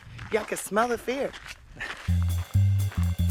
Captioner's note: laughter